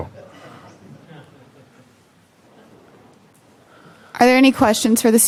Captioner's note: chuckles